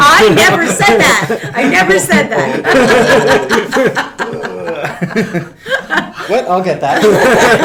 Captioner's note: laughs; all laugh